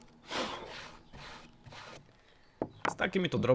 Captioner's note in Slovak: smrkanie